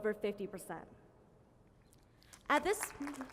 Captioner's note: applause